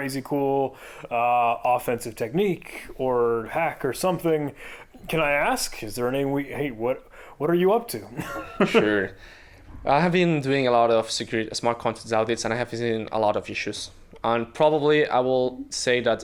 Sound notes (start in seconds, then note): 8.1 chuckling